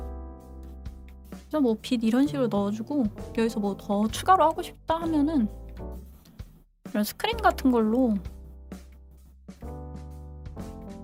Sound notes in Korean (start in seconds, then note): none